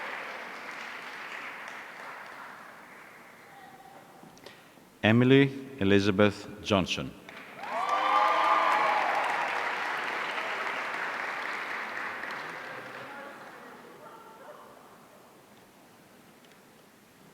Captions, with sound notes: Emily Elizabeth Johnson. (audience cheering)